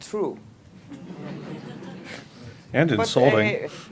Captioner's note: laughter